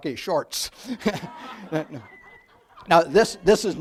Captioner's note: audience laughs